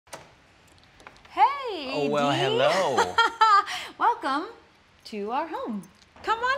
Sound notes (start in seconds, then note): 0.1 door opens; 2.7 laughter